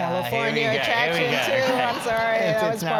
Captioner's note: laugh